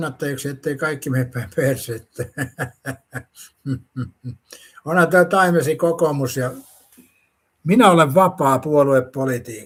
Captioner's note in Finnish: naurua